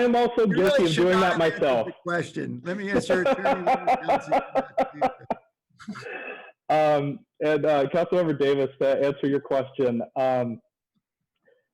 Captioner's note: laughter